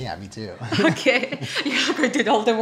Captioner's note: laughs